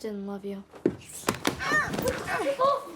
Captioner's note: groaning